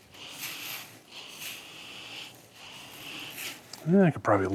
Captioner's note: drill whirring